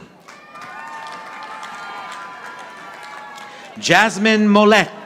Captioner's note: audience applauding